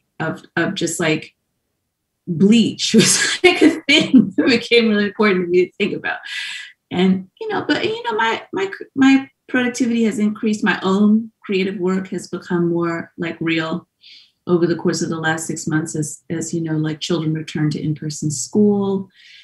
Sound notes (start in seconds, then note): none